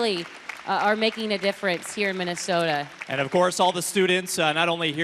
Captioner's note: applause